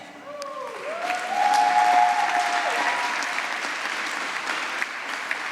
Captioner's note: applause